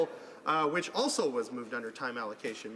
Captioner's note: none